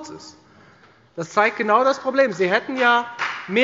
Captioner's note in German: Beifall bei der FDP